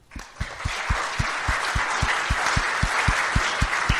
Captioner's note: applause